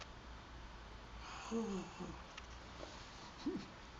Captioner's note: gasps